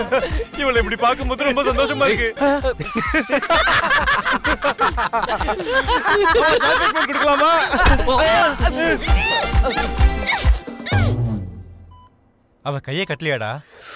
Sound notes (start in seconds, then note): 2.5 laughs